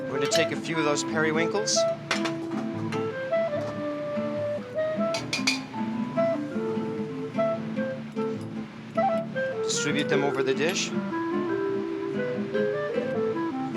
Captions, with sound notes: We're gonna take a few of those periwinkles, (clang) distribute them over the dish.